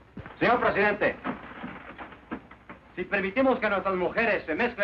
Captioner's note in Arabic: رجل يتحدث الإسبانية